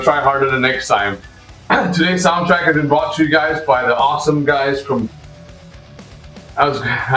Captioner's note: stammers